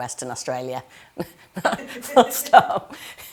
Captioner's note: all laughing